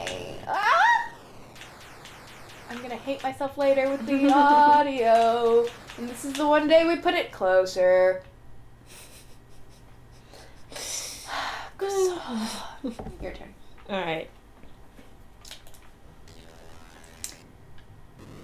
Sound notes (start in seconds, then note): 11.0 sigh; 11.5 japanese